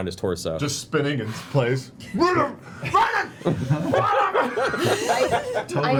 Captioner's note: confused screams; laughter